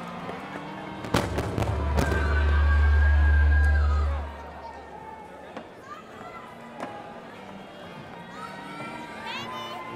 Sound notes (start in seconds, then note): 3.1 indistinct chatters